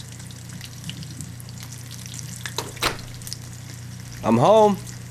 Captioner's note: door opening